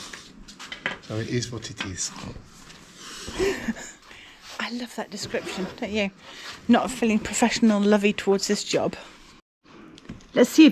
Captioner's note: laughter